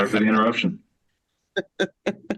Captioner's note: laughter